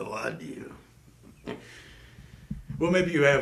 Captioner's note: chuckles